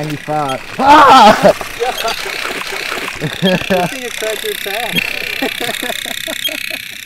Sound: screams and laughs

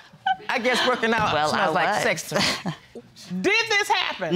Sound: chuckles

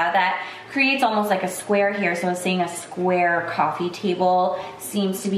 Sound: none

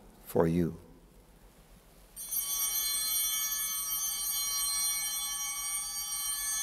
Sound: altar bells ringing

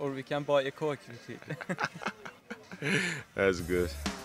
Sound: both Laughing

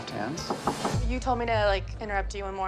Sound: knock at door

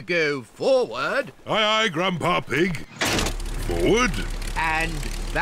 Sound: lever clunks

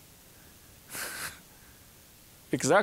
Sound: chuckling

